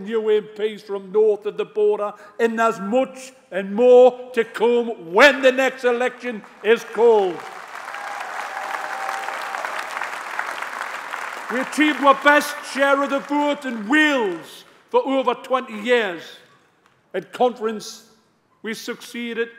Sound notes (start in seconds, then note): 11.7 applause